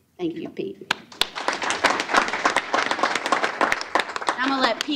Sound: applause

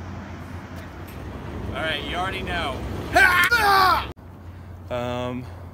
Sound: yelling

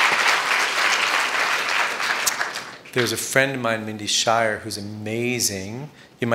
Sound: applause

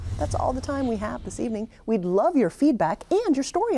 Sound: air whooshes

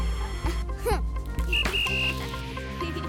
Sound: grunts; whistling

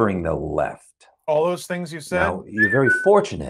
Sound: whistles

